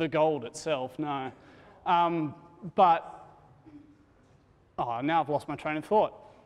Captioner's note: laughs